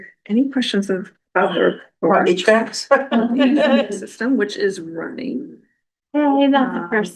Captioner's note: laughter